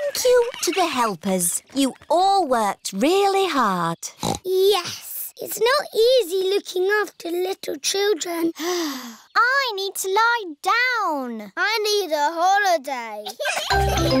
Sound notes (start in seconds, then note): 8.6 sighs